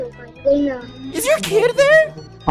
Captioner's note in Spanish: niño balbuceando